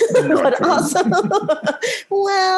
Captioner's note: both laughing